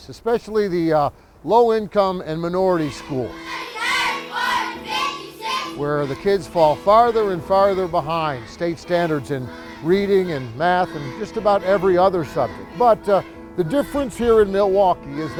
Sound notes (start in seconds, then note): 4.0 kids chanting